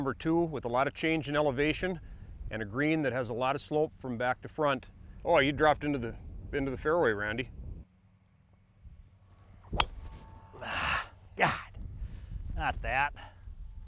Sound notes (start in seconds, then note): 9.8 ping!